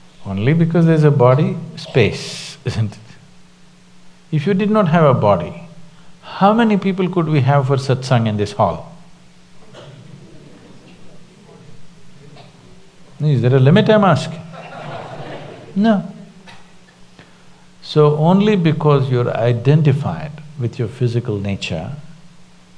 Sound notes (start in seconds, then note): 9.8 few laugh; 14.5 laughter; 14.5 笑聲